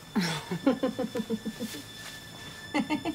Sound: giggling

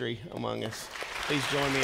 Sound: congregation clapping

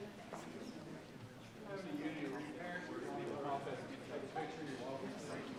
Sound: people chattering indistinctly

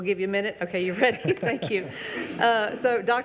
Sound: laugh

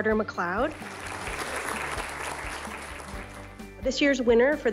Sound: applause

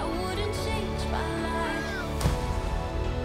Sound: screams

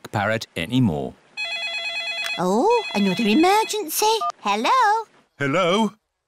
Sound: phone rings

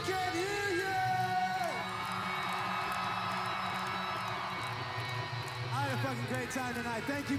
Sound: applause

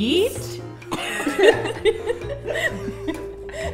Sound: they all giggle

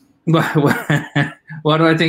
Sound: laughing

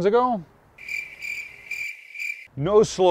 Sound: cricket chirping

